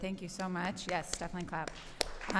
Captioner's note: applause